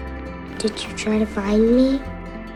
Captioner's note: voiceover